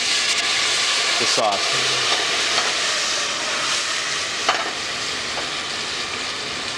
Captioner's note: pot sizzles